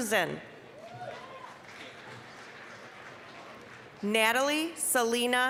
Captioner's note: applause